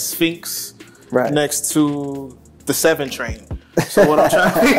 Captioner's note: laughing; laughs